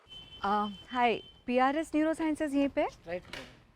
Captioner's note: mumbles a thank you